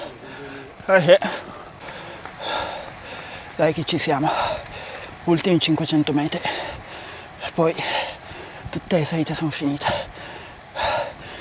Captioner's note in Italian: sospiri